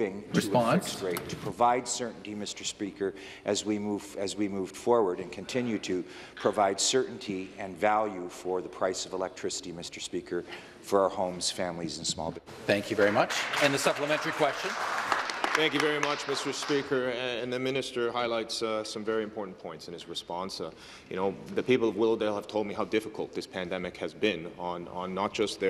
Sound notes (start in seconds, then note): 17.2 some Applause